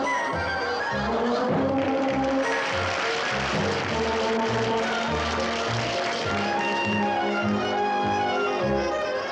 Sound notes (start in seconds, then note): 3.0 audience applauds